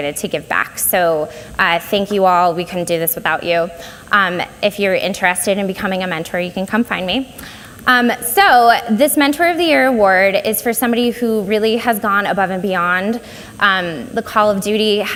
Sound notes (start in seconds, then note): none